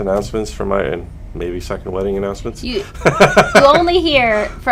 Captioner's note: laughter